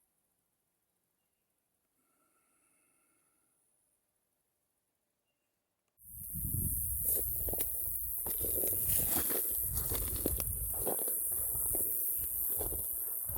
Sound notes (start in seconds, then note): 6.0 insects buzzing